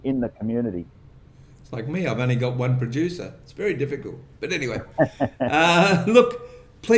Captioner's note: laughter